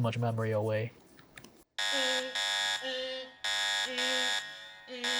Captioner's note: alarm buzzing